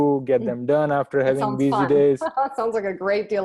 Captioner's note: laughs